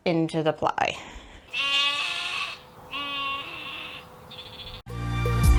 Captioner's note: sheep noises